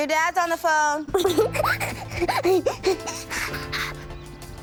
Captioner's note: giggling